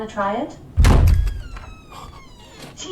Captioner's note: door slams open